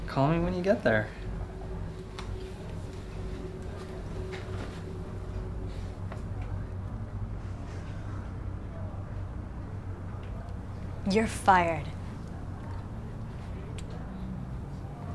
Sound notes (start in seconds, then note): none